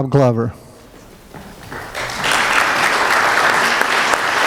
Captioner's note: applause